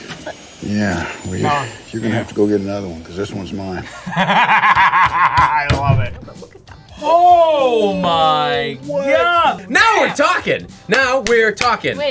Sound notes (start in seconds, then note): 3.8 laughs